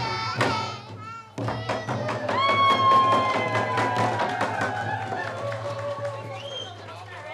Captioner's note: cheers and applause